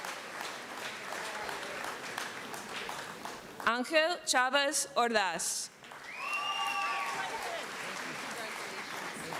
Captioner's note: applause